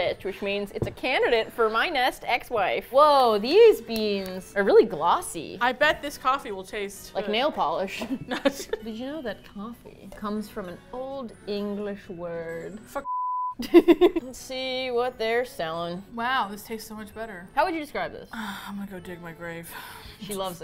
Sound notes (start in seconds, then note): 8.0 both laugh; 13.6 laughs; 18.3 sighs